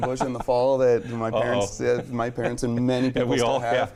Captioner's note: laughs